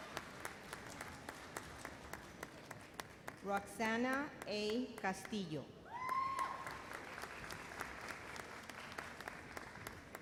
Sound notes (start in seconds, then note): 5.9 audience cheers